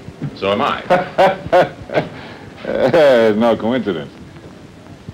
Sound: laughs

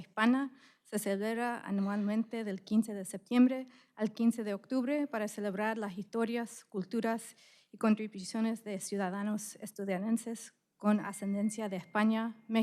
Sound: speaking spanish

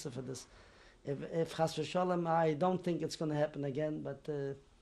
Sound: non-english

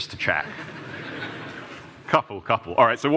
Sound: laughter

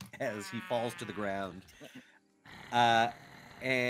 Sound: goblin cries

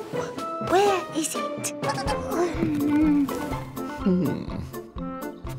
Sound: mouse squeaks

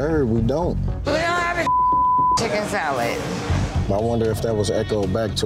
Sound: beep

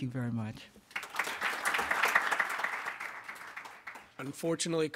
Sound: audience clapping

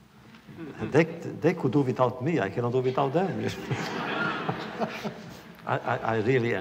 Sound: laughter

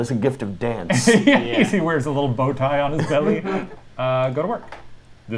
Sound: laughs

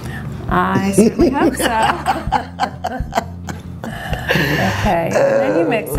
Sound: laughs

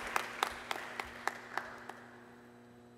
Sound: applause

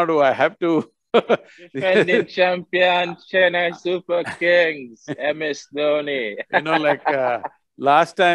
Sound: laughs

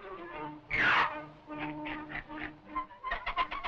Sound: grumbling; quacking; clucking

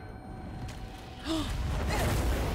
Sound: gasp

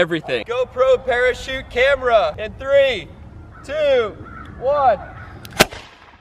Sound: blast

